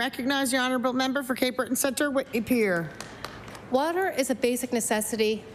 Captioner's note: applause